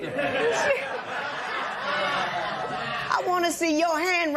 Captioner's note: laughter